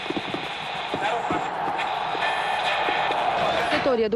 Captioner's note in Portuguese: Sintonizando rádio